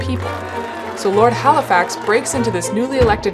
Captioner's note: crowd cheering